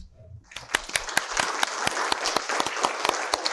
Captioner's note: applause